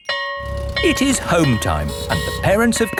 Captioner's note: school bell ringing